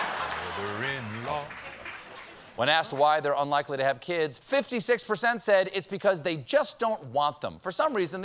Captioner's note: laughter